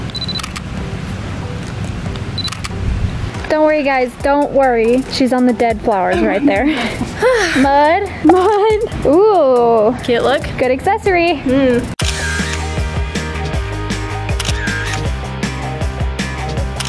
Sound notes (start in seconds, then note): 0.0 camera beeps and clicks; 2.3 camera beeps and clicks; 12.0 camera clicks